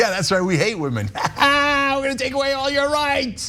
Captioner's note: laugh